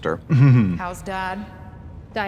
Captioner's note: Katya chuckles